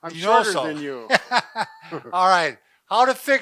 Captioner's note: laughs